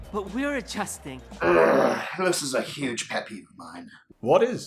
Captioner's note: groans